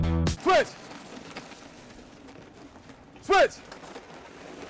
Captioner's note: energetic music plays; tire scrapes